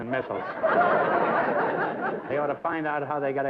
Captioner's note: laughter